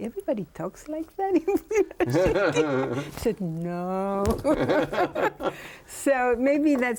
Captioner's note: both laughing